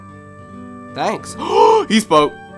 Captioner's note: gasps